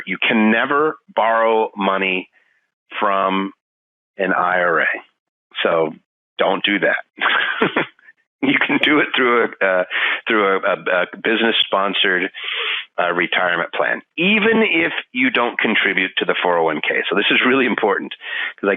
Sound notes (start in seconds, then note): 7.2 laughing